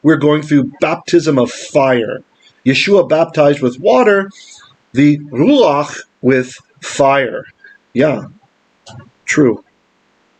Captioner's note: Hebrew